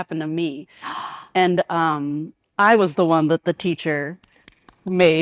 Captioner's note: claps